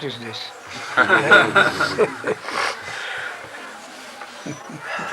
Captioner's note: laughter